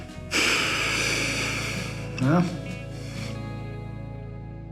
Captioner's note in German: atmet aus